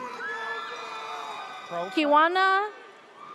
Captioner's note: audience cheers